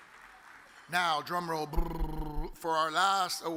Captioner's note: audience applauds; mimics drum roll